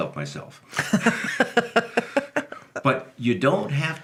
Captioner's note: laughing